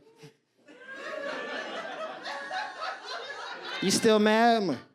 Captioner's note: audience laughs